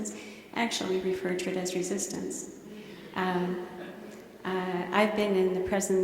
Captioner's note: laughter